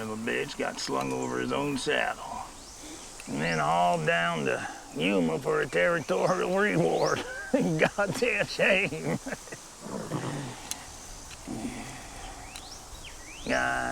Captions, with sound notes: Man, all down to Yuma for a territorial reward. (chuckles) A goddamn shame Yeah, a goddamn shame.